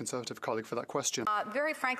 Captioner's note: speaking French